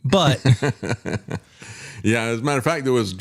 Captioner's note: laughing